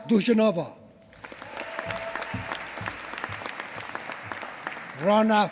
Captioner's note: applause